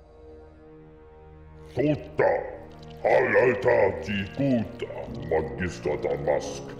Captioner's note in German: In Huttese